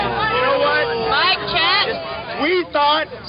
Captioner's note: voiceover